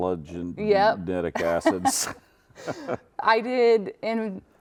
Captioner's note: laughs